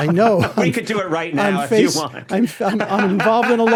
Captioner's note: laughs